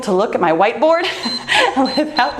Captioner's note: timer beeps